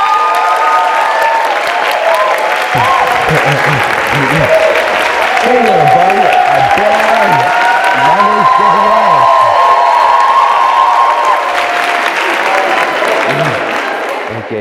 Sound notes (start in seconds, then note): 0.3 applause; 5.7 applause continues; 12.8 applause fades